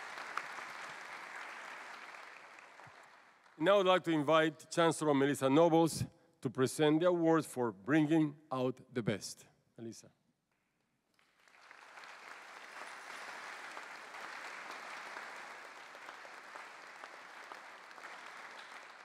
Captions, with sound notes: Now I'd like to invite Chancellor Melissa Nobles to present the awards for Bringing out the Best. Melissa. [APPLAUSE]